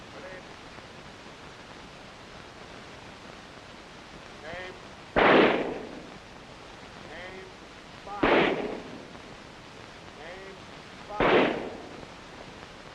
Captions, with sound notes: - Ready... Aim... (gun shots) Aim... Fire! (gun shots) Aim... Fire! (gun shots)